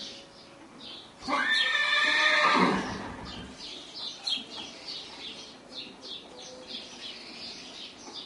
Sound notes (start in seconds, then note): 1.2 horse whinnies in background